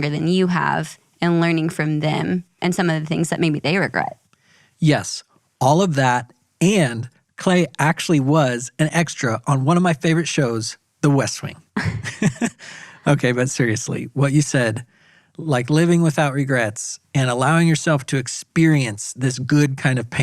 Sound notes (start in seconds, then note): 11.8 laughing